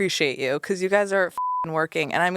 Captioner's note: beep